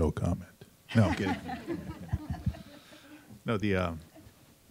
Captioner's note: panel laughing